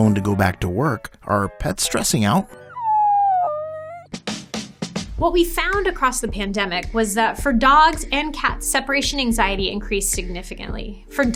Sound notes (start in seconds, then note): 2.6 dog whines